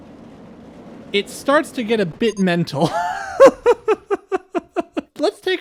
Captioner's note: laughter